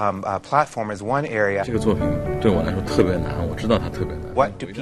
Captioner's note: speaking Chinese